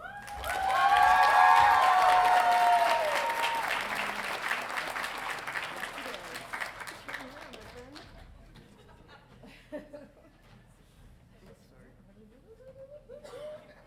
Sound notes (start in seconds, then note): 0.0 audience cheering; 7.2 mumbles; 9.6 chuckles